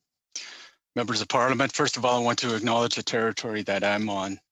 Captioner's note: speaking Alternate Language